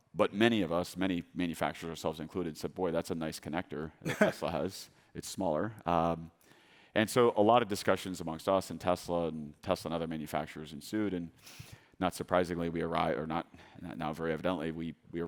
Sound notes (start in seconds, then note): 4.0 chuckles